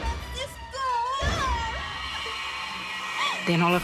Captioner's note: crying